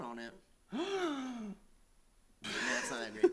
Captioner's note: gasp